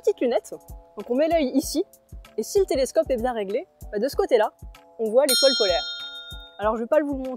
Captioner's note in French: ding